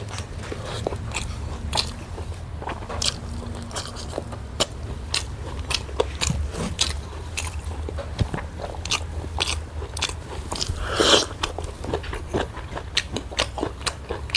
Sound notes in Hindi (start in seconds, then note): 10.1 नाक से की जाने वाली आवाज़